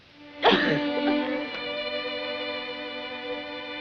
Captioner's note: sobs